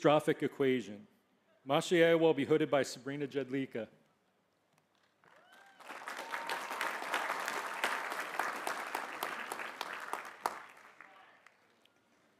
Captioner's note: applause